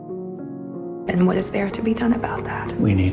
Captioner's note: voiceover